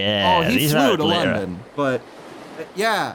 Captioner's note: waves lapping against a rugged beach